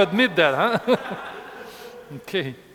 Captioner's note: instructor and students laughing